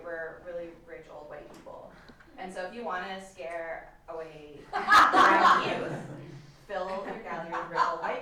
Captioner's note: audience laughter